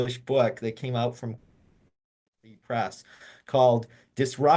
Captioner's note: audio cuts